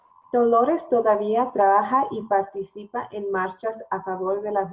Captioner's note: foreign language